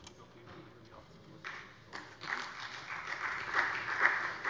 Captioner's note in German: Beifall bei der SPD